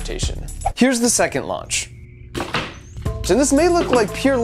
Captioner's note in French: souffle d'air